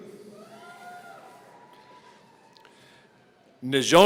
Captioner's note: audience cheering